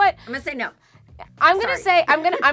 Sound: laughs

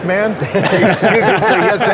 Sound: laughter

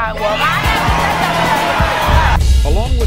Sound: audience screaming

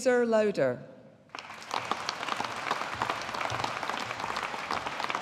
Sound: audience applauding

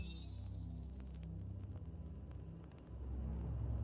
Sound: computer beeping

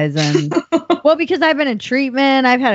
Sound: laughing

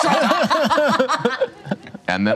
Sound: laughter

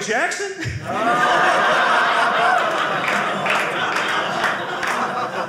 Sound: audience laughing

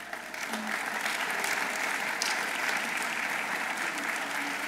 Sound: audience applauding

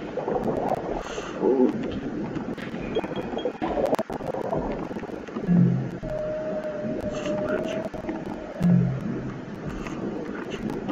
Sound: sound of submarine; whispering

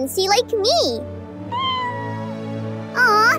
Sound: meowing

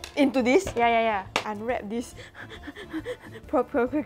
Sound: breathes heavily

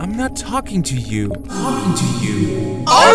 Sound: echo

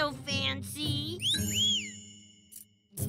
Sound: whistling

